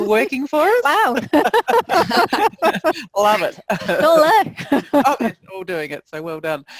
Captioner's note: laughter